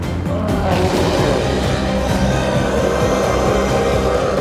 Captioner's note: intense music continues; chef roars